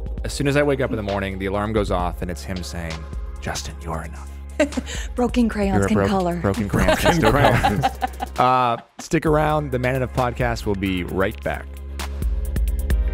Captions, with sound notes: - As soon as I wake up in the morning, the alarm goes off, and it's him saying, "Justin, you're enough." - Broken crayons can color. - Broken crayons can color. (laughter) - Stick around, the Man Enough Podcast will be right back.